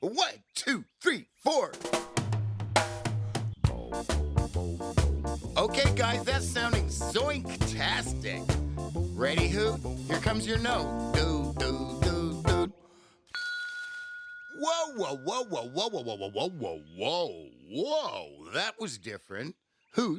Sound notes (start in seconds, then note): 1.9 ska music; 13.3 bell rings